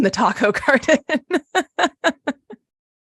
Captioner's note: laughs